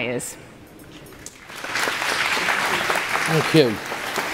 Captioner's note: applause